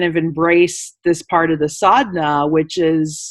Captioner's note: speaking in foreign language